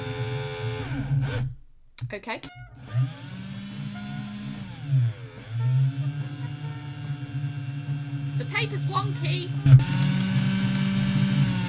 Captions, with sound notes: Okay. *Whirring continues* The papers wonky! *Louder whirring*